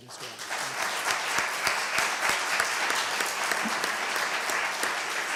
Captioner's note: applause